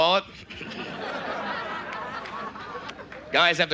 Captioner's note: audience laughs